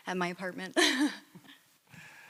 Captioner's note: laughs